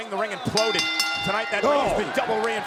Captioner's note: bell rings